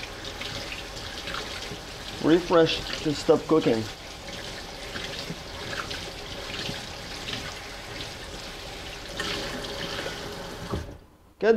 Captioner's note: running water